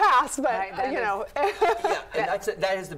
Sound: laughs

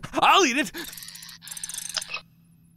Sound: panting; whirring

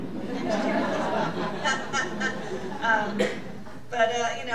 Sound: all laughing

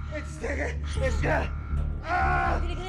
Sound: screaming

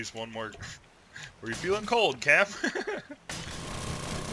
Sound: laughs

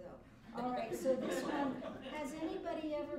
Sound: laughter

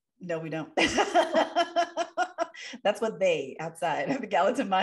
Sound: laughter

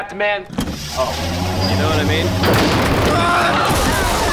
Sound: screaming

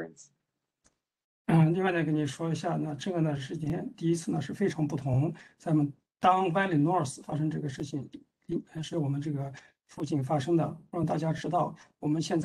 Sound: speaks in Mandarin

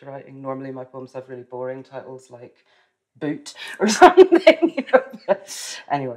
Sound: laughs

